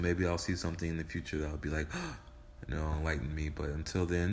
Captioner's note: gasps